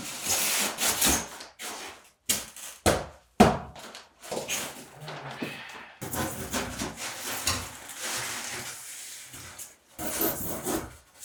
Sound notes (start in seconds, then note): 4.9 sighs